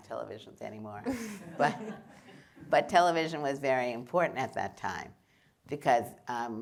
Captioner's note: laughter